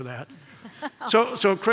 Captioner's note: audience laughs